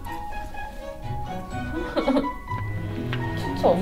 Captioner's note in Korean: 웃음